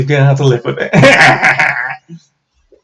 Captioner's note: evil laugh